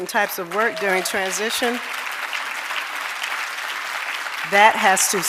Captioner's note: audience applauding